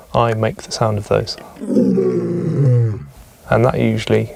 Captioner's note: lion roar